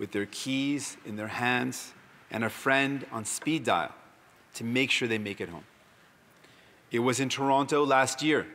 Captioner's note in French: voix de l'interprète